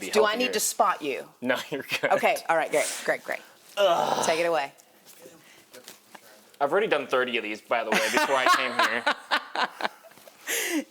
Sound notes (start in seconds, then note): 4.2 grunts; 8.0 laughs